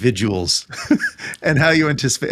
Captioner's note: laughing